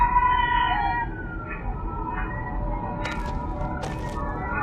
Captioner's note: otherworldly sound